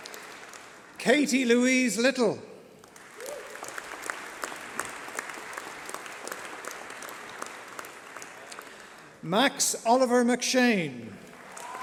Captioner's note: applause